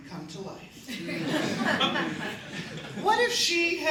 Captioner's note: laughter